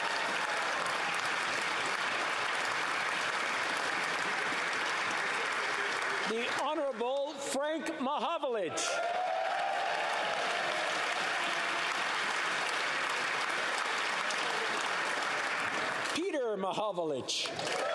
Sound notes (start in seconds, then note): 0.0 cheering and Applause; 2.3 applause